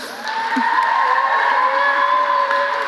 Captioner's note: applause